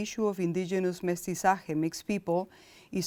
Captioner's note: speaking in foreign language